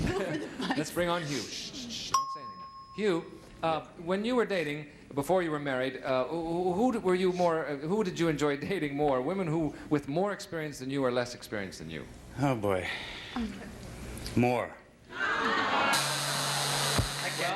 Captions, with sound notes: -Let's bring on Hugh, sh, don't say anything. Hugh? When you were dating, before you were married, who did you enjoy dating more, women with more experience than you or less experience than you? -Oh boy (sighs). More. (audience groans) (buzzer)